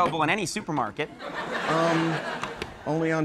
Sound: crowd laughs

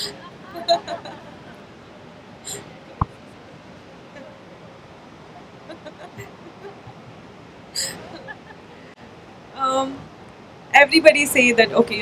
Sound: few laughs

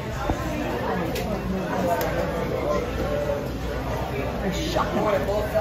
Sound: patrons chattering

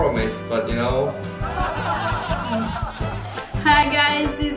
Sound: laugh

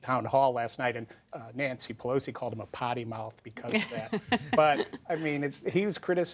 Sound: laughter

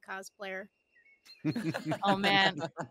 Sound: laugh

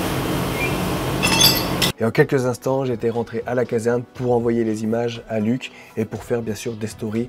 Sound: breaking glass

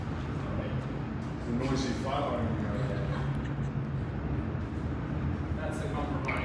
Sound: chuckling

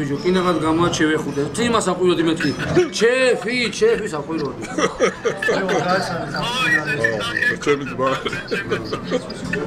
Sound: laughs

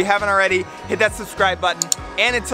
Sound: clicking

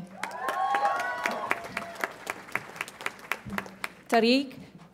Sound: audience applauds and cheers

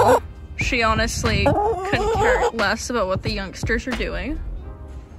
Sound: loud chicken noise; loud chicken noise

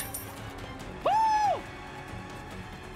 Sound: Sonic Voice

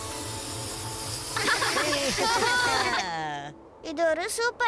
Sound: laughing

